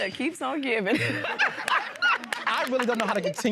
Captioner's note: all laughing